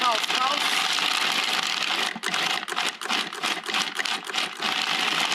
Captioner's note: food processor grinding